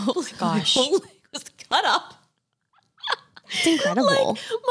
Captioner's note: laughs